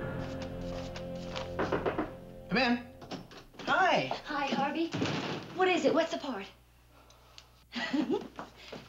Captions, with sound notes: -(knocking on door) -Come in. -Hi. -Hi, Harvey, what is it? What's the part? (giggles)